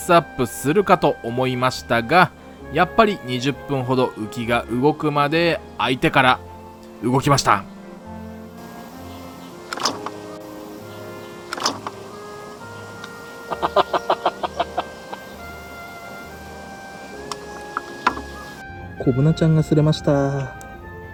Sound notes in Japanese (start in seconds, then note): 11.0 笑い